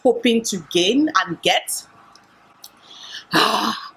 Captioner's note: sigh